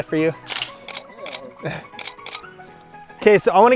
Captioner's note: laughs; click, click, click